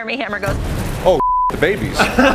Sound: laughter

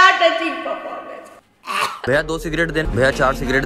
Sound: violent coughs

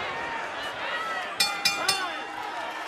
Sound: bell rings

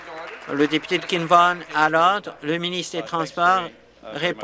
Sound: some applause

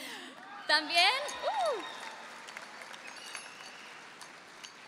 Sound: audience cheering

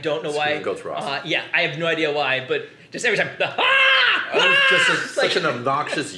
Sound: screaming like the goats

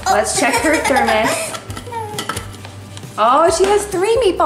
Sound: laughs

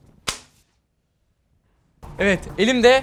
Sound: airplane flying

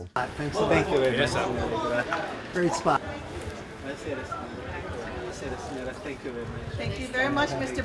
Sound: people speaking

